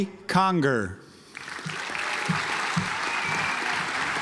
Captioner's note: audience applauds